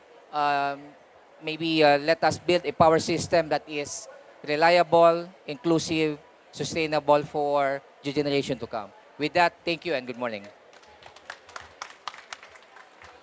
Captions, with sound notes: let us build a power system that is reliable, inclusive, sustainable, for the generation to come. With that, thank you and good morning. (APPLAUSE)